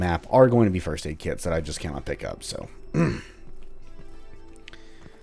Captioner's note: clears throat